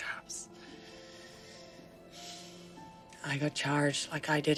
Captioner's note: sighing